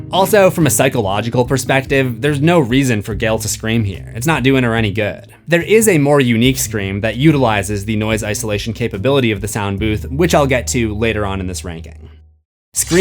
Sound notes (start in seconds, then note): none